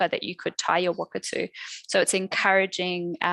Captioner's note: non-english speech